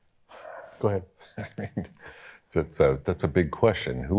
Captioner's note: chuckles